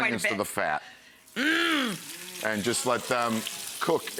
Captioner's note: onions sizzling; audience moaning